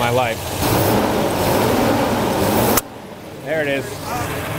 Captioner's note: engine revs